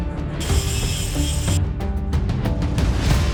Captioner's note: pensive music; saw buzzing; pensive music continues